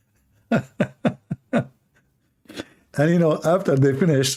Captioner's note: Ketawa